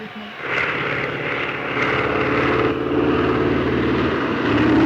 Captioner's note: airplanes buzzing